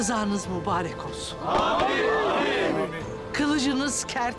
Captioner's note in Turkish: Hep bir ağızdan